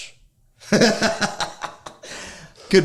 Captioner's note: laughing